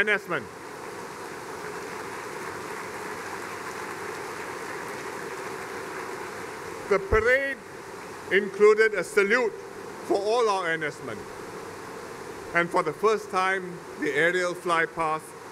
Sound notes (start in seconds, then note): 0.7 applause